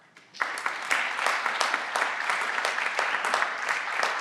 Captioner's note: everyone claps